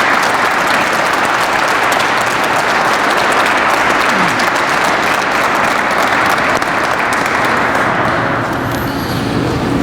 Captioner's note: crowd applauds